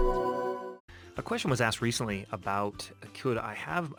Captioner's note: voiceover